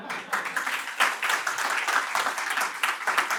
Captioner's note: audience applauds